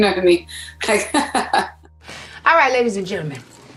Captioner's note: laughs